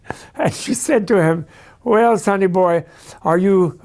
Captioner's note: laughing